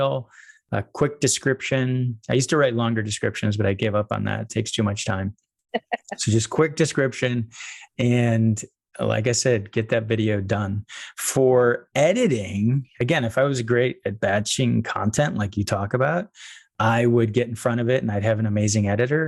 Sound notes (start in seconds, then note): 5.7 laughing